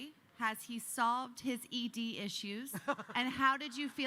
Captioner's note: laughing